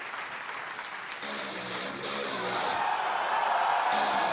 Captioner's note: cheers and applause